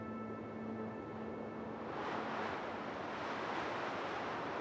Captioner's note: winds gust